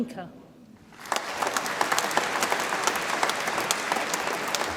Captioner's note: audience applauds